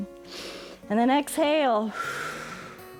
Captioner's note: exhales